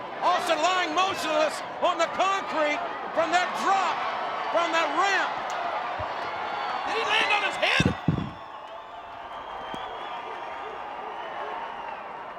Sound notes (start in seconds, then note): 8.7 crowd cheering